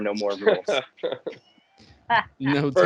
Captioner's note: laughing